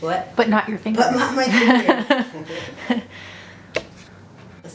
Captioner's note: laughter from background